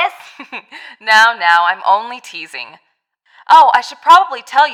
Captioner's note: chuckles